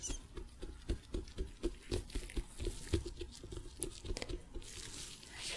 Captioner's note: tapping and sticky sounds